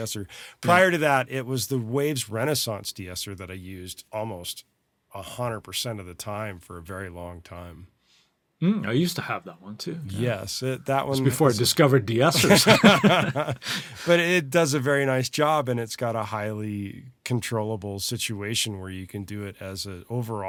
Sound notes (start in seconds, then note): 12.4 laughs